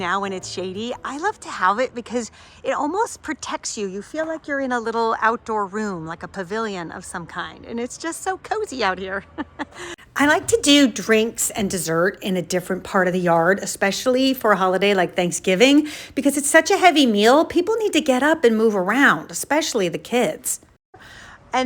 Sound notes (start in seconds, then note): 9.7 laughs